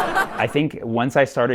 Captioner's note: laughter